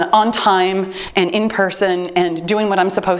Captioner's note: timer beeps